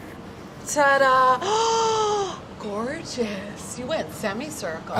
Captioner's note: gasps